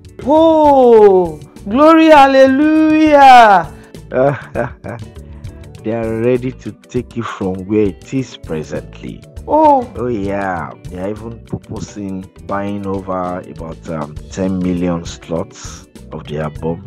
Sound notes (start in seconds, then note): 4.2 laughing